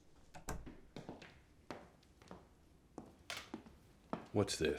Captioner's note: footsteps clacking